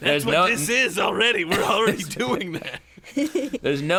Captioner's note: laugh